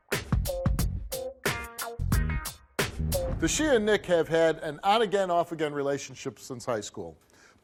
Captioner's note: none